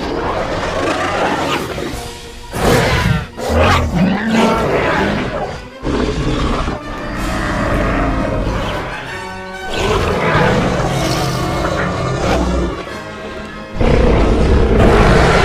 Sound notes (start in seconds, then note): 0.1 carnotaurus Sounds; 4.4 battle Sounds